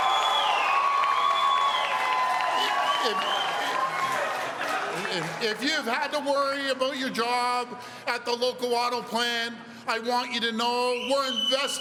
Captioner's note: cheers and applause